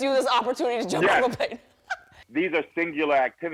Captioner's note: laughs